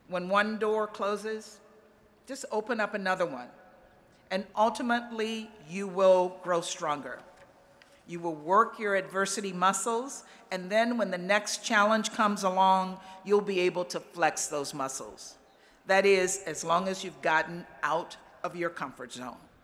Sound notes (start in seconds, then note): none